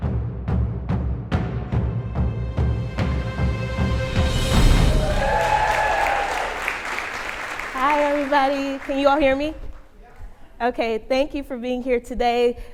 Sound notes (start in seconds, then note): 0.0 beating drum; 4.8 applause